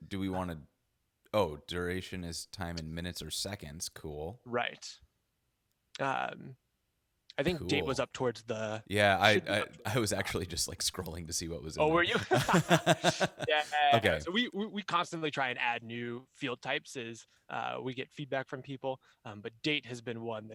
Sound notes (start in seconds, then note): 12.0 both laugh